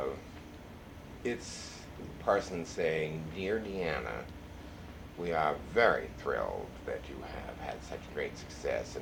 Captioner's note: nasally